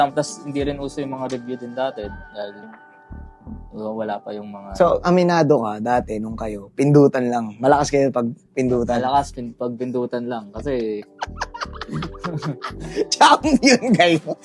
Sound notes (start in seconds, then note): 11.0 laughter